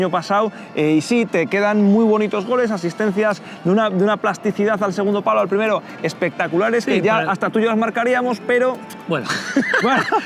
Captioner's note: laughter